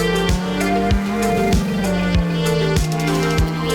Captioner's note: lo-fi music; car engine revs